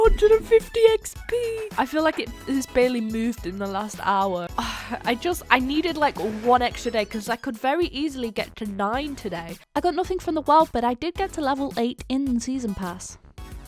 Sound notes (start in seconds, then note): 4.6 sighs